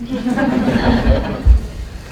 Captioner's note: laughter